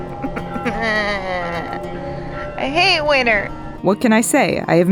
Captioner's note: me moaning